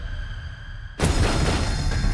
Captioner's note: gun firing; dramatic music